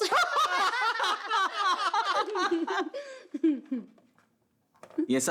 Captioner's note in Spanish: Risas